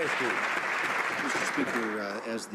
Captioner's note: some Applause